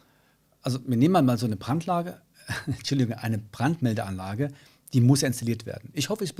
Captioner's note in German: lacht